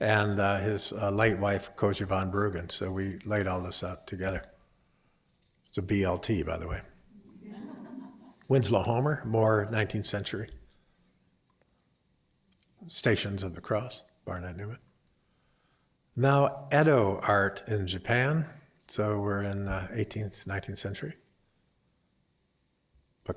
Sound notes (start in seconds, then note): 7.2 laughter